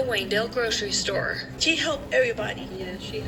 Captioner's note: on TV